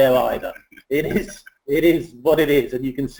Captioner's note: laughs